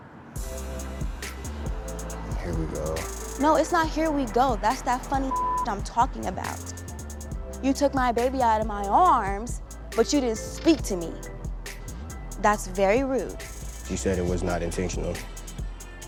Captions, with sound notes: (fast upbeat music) - Here we go. - No, it's not here we go that's that funny (beep) I'm talking about. You took my baby out of my arms but you didn't speak to me. That's very rude. - She said it was not intentional.